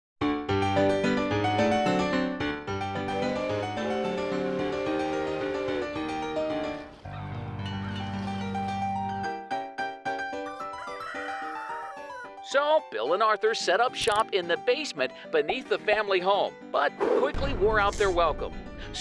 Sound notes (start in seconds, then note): 0.5 lively piano music; 3.1 train whistle; 3.1 gulls crying; 10.8 rooster crowing